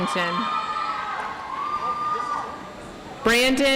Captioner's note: audience applauds